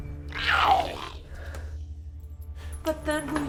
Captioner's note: Giree growls